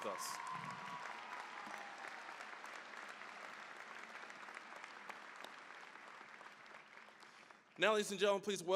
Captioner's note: cheering, applause